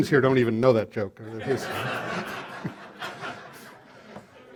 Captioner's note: laughter